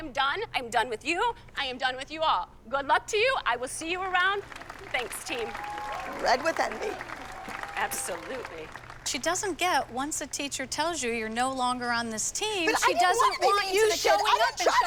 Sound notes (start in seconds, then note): 4.3 applause and cheering